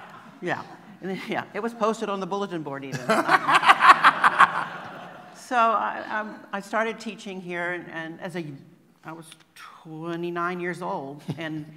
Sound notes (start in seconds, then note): 2.9 laughter